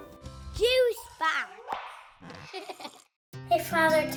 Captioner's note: giggles